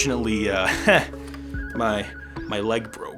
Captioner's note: chuckles